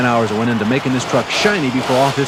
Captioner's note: voiceover